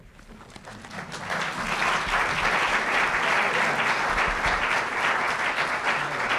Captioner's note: applause